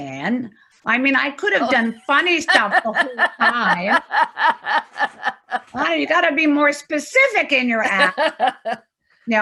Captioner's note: laughing